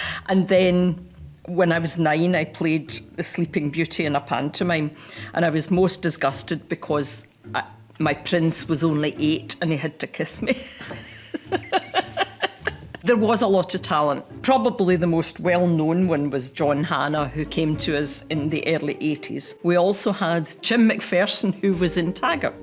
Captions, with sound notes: And then, when I was 9, I played Sleeping Beauty in a pantomime and I was most disgusted because my Prince was only 8, and he had to kiss me (laughs)... There was a lot of talent. Probably, the most well-known one was John Hannah who came to us in the early eighties. We also had Jim MacPherson who was in Taggart.